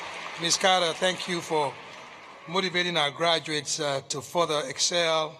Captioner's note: cheers and Applause